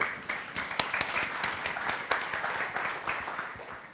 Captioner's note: applause